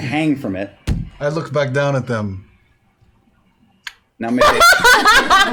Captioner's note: clicks tongue